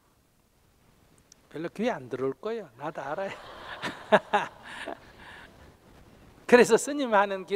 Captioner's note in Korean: 청중 웃음